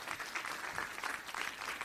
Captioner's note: audience applauding